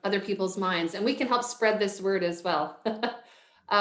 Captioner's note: chuckles